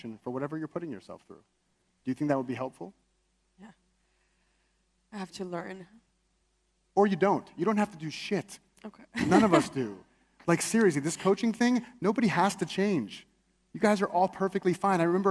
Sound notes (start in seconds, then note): 9.1 laughs